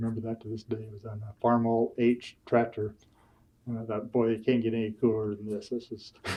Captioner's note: laughs